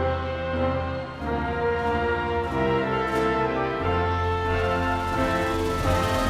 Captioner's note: audience continues cheering